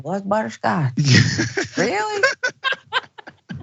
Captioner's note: laugh